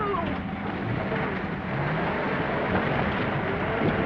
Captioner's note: engine rumbling